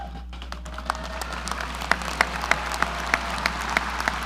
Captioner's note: audience applauding